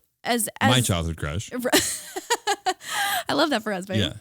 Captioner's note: laughing